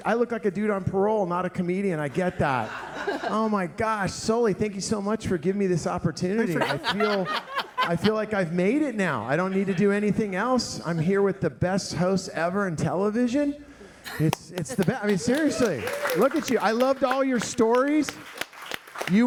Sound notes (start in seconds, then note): 16.0 audience applauding